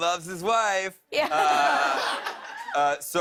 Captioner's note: laughter